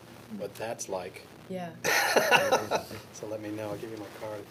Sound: laughs

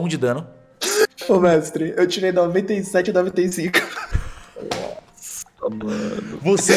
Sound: laughter

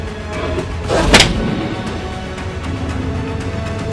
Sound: smack sound

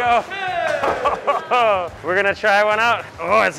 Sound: workers cheer; laughs

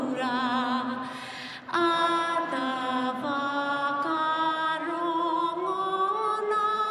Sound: none

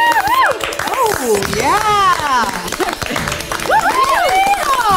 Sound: audience cheers

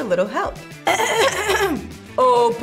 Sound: clears throat

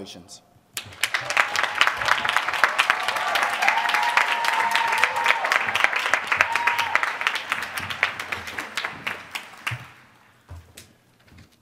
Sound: applause

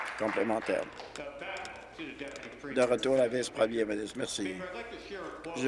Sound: applause

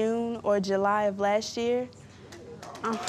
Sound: applause

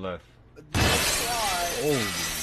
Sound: glass Shatters

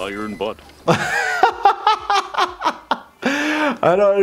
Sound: laughter

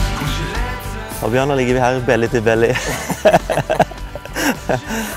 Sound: giggles

